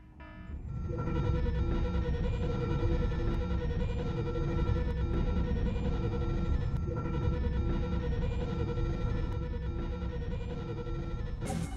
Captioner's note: alarm blares as “Intruder alarm activated” flashes on the screen